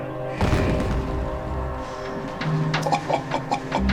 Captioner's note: bomb explodes